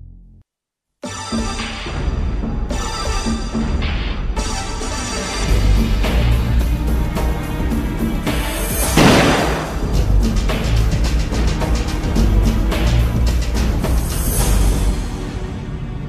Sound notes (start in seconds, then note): 8.9 gun shot